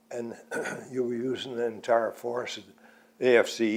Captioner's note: clears throat